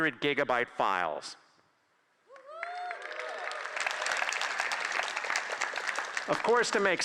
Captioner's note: applause